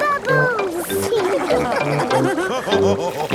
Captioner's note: all laughing